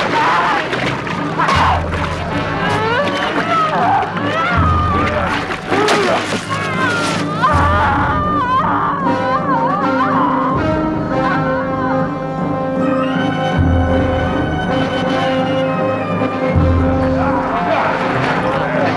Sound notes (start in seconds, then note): 0.3 Marauder shouts; 2.9 woman grunting; 4.8 blood squelching; 6.2 child groaning; 13.3 dramatic music